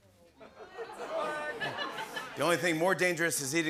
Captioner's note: light laughter